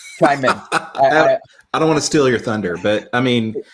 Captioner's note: laughing warmly